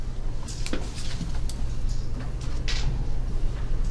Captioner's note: paper rustling